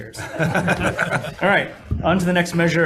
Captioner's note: room laughing